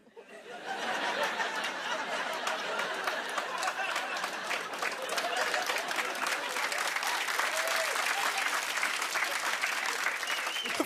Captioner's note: laughter and applause